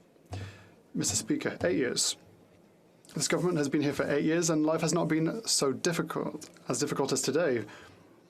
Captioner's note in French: voix de l'interprète